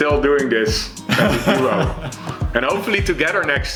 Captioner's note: laughs